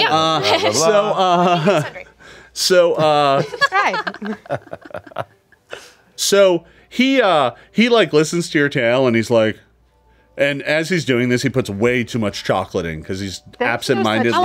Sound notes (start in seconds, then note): 3.0 all chuckling